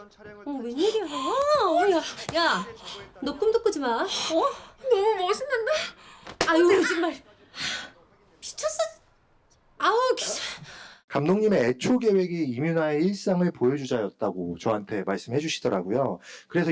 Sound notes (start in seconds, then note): 6.1 smacks